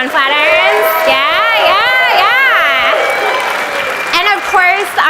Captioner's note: audience applauds